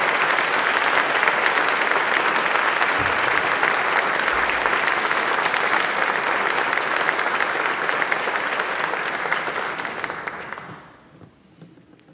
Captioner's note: clapping